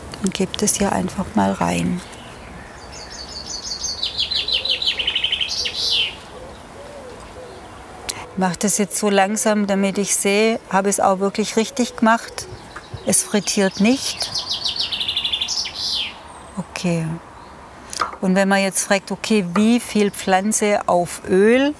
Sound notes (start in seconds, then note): 3.7 birds chirping